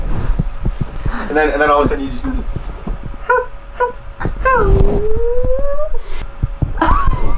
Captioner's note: chirps